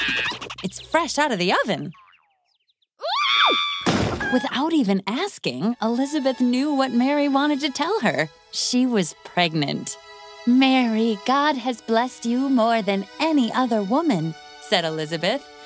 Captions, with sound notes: [SCREAMS] -It's fresh out of the oven. [SCREAMS] [CRASH] -Without even asking, Elizabeth knew what Mary wanted to tell her. She was pregnant. "Mary, God has blessed you more than any other woman," said Elizabeth.